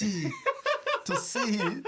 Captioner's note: laughter